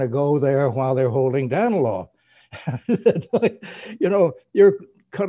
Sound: laughs

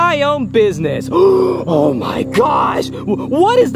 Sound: gasps

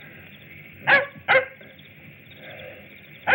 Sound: dog barking

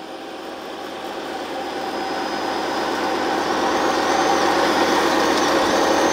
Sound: machine engine roaring

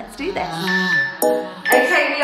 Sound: countdown timer beeping

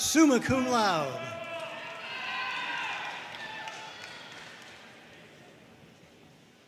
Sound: audience cheering and applauding

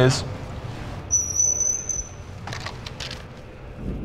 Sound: bar squeaks

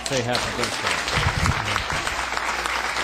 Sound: applause

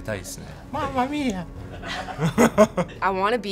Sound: laughs

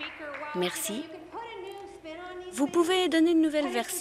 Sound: applause

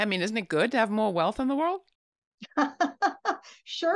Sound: laughs

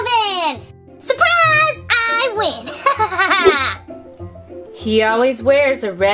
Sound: laughs

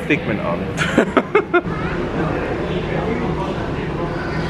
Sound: chuckling

